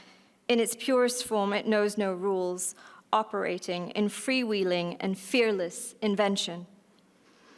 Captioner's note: none